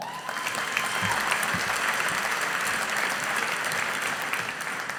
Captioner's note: audience applauding